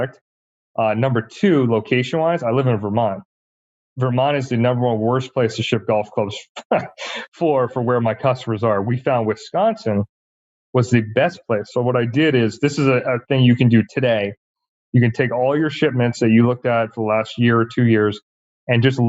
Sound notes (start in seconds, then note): 6.5 laughs